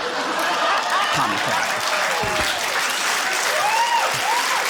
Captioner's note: laughter; cheering, applause